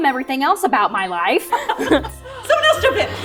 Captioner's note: laughs